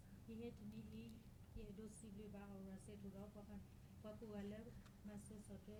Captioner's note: speaking in foreign language